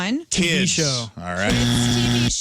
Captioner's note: buzzer